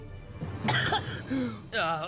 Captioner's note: Mal Coughs